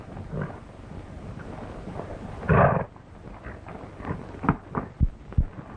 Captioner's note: horses neighing and galloping